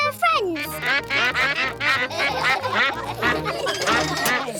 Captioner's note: quacks; all quack; laughter